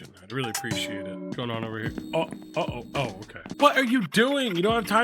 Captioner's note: stammers